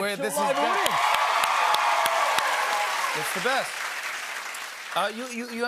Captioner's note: cheers and applause